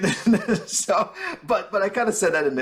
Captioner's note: chuckling